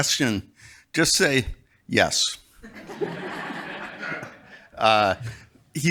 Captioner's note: crowd laughing